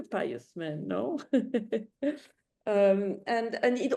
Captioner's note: chuckles